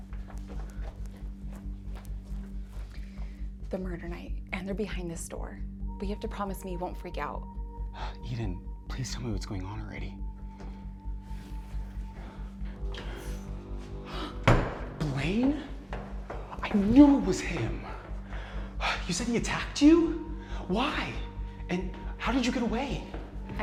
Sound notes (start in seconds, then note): 0.2 gentle suspenseful music; 12.6 suspenseful music; 13.9 gasps